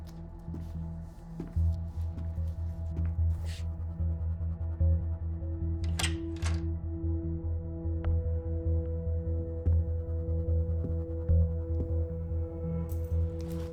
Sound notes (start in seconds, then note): 1.2 footsteps tapping; 10.2 slow suspenseful music